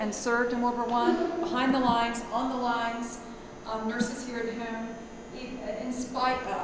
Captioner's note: murmurs